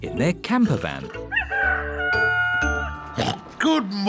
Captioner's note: daddy pig oinks; rooster crowing